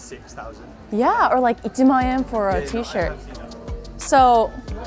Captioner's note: speaks in foreign language